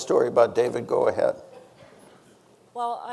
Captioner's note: audience chuckling